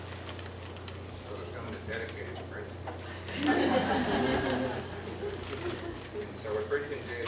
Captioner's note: laughter